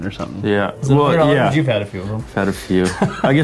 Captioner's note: laughs